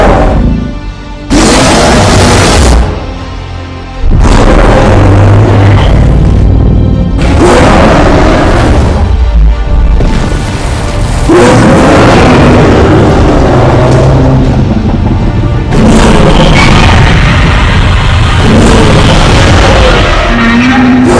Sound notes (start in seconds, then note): 5.1 crashing buildings; 11.1 Godzilla and Kong Roaring loudly